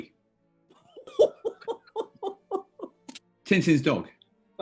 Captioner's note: chortling